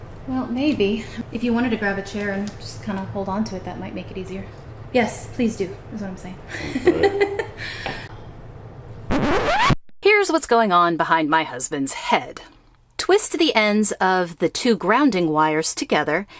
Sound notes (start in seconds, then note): 6.5 laughing